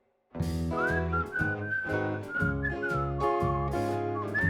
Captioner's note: singer whistling